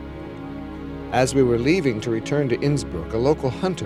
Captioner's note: non-english speech